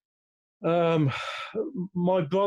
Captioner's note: sighing